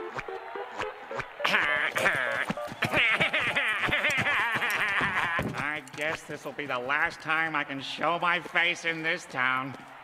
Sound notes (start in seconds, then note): 1.4 chortling